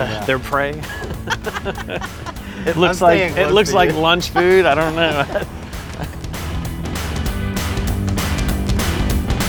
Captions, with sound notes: - Their prey. (laughing) It looks like lunch food. I don't know. (upbeat music)